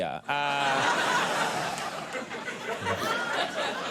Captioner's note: crowd laughs